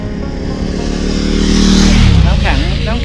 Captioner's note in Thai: เสียงรถมอเตอร์ไซต์